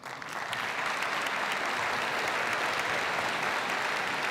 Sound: audience applauds

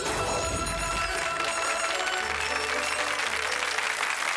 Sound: audience applause

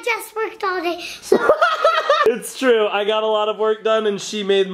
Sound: laughs

